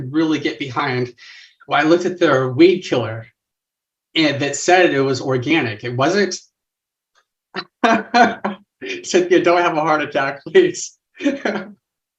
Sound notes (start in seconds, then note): 10.6 laugh